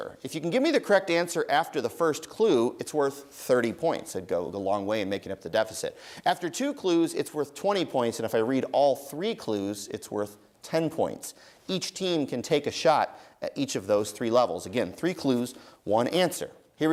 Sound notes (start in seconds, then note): none